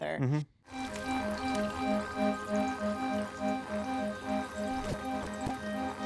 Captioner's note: water rustling; light orchestral music; transition fluttering